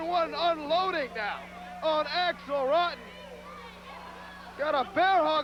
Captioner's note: crowd cheering